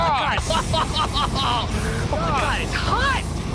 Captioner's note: laughs